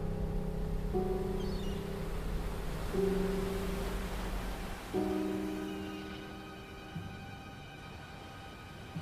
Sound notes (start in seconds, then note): 0.7 waves splashing; 0.9 seagulls squawking